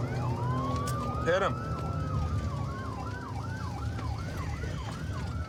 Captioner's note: sirens wailing